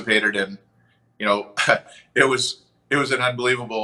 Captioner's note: chuckles